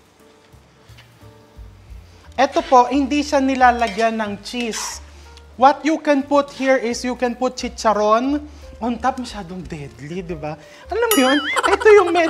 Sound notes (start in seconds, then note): 7.6 fried pork crackling